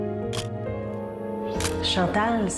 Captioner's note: camera shutter click